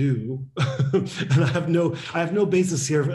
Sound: laughs

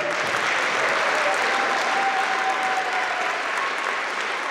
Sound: applause

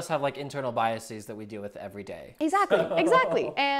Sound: laughs

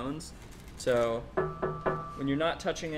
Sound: knocks on metal

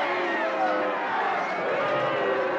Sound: crowd booing

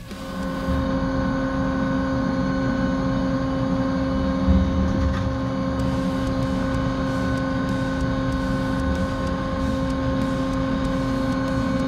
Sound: machining noises

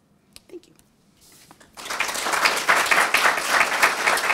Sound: applause

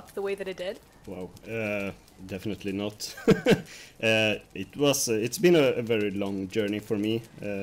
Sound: laughs; laughs

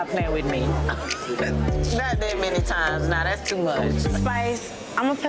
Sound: laughs

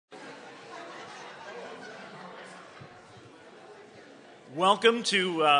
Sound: crowd Chattering

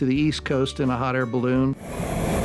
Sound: air whooshing

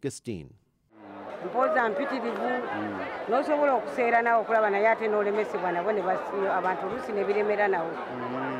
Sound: speaking in their native language

